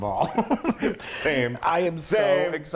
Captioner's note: laugh